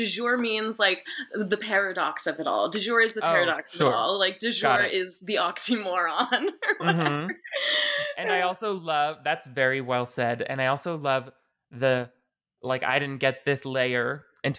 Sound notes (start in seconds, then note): 5.6 laughing